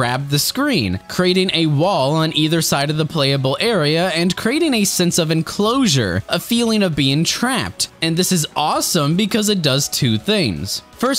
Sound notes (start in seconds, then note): none